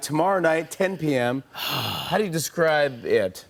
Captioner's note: sighs